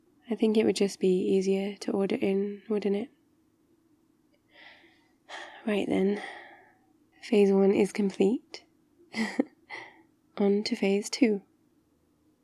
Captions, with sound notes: I think it would just be easier to order in, wouldn't it? *sighs* right then phase one is complete *laughs* onto phase two